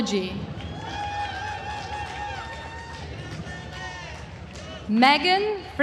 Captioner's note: attendees cheering and applauding